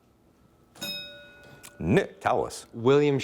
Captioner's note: bell dinging